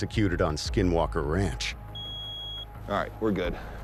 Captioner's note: beeping